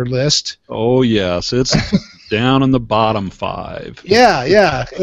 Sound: laughs; laughs

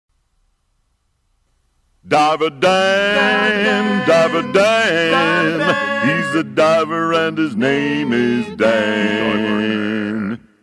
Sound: phone rings

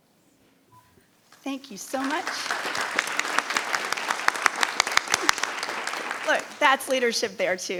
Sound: people applauding

